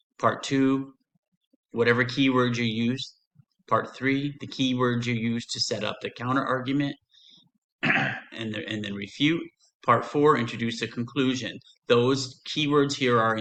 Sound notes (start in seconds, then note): 7.8 clears throat